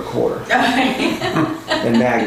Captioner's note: laughter